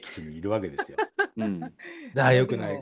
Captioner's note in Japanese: 笑い